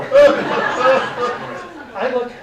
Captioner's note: audience laughing